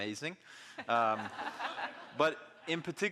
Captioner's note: audience laughing